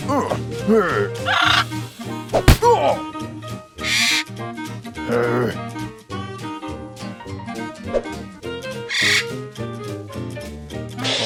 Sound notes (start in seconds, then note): 1.2 parrot chirps; 2.1 grunts; 3.8 parrot squawks; 5.1 growls; 8.8 parrot chirps